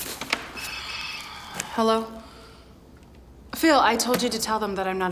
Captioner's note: sighing